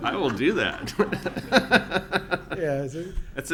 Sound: audience laughing

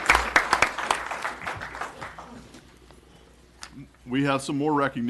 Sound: applause

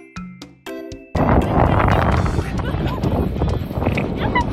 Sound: wind noises

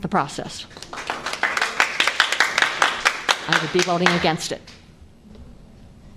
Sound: applause

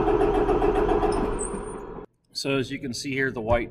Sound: engine stops

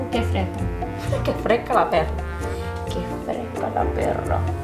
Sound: speaks Spanish

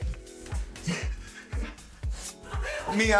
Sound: laughter

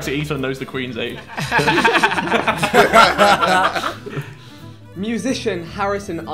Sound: everyone laughing

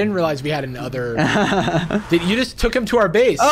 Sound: laughs

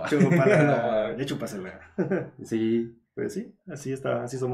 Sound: laughing & agreeing

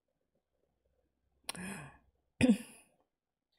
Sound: gasps

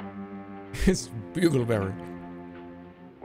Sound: chuckles

